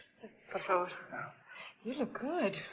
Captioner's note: foreign language